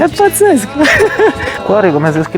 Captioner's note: laughter